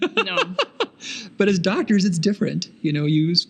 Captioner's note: laughing